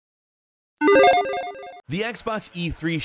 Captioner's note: logo beeps